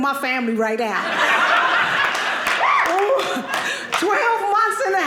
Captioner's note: audience laughing